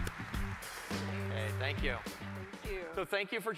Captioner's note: applause